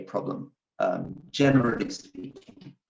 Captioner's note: audio glitches